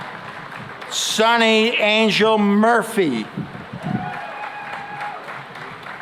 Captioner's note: cheering and applause